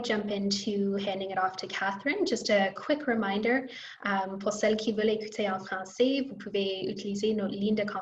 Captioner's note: French